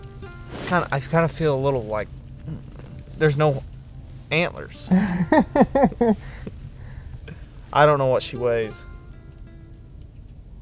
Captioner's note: laughter